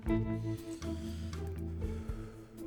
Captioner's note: sighs